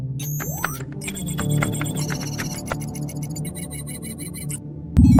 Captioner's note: keyboard clicking